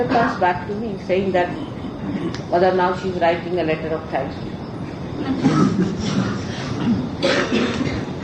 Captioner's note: laughing